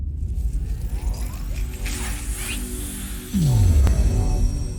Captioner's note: awesome sound effects